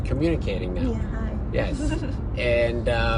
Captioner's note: giggles